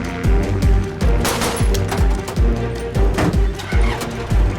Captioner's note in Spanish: Disparos